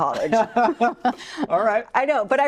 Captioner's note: laughing